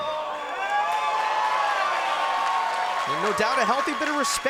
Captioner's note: crowd cheers